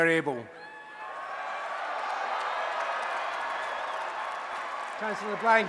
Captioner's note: applause and Cheering